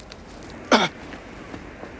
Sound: gasps

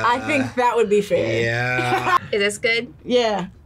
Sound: laughs

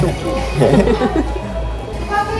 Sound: laughing hard

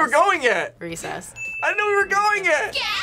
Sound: bell rings

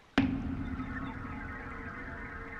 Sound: whistles

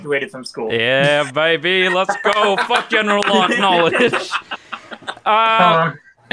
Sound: group laughing

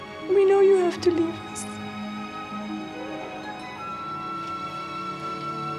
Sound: crying

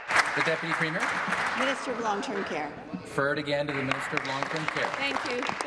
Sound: applause

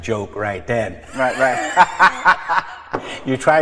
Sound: laughs

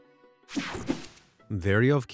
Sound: logo whooshing

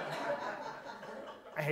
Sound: audience laughs

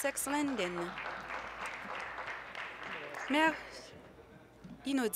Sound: applause

